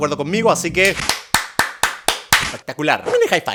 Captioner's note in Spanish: aplaude